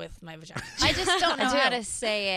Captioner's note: laughing